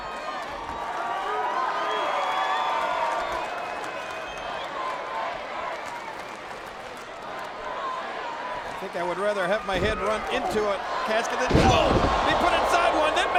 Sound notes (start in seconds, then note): 1.8 audience applauds and cheers